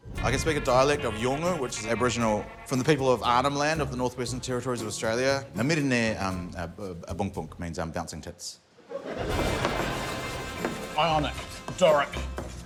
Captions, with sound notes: I can speak a dialect of Yolngu which is Aboriginal from the people of Arnhem Land, of the northwestern territories of Australia. (SPEAKS YOLNGU) means bouncing tits. (LAUGHTER) Ionic, Doric,